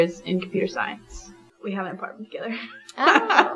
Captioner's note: laughs